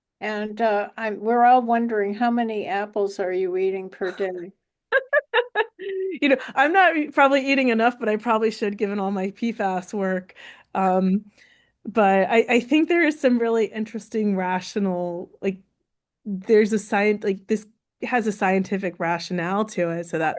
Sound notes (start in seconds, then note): 4.9 chuckles